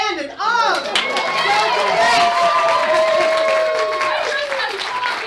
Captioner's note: cheering